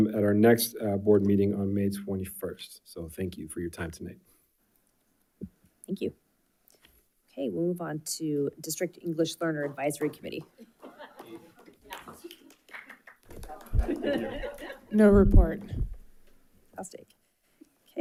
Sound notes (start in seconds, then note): 11.2 light chatter; 11.2 people chuckling